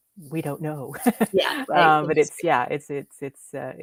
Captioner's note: laughs